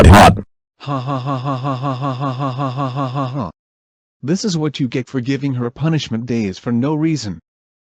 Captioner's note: laughter